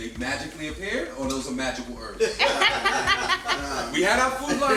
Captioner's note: laughter